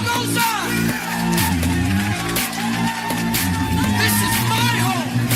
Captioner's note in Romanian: Aplauze